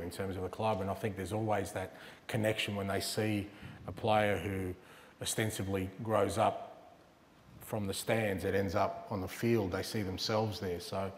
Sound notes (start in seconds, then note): none